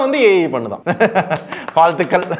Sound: laughs

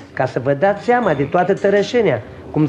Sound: none

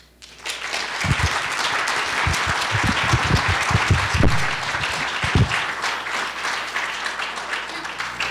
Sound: applause

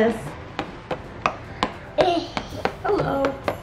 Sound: tapping on box

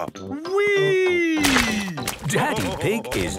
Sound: splashes

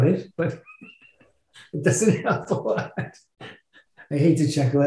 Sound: chuckling

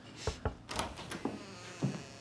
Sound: knock

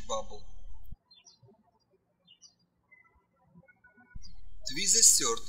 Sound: birds chirping

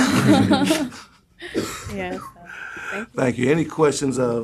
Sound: laughter

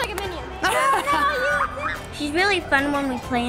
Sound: laughing

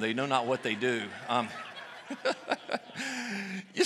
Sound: laughs

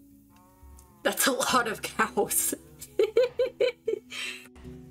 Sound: laughing

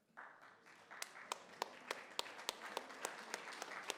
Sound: applause

